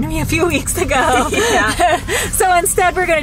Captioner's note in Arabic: كلاهما يضحك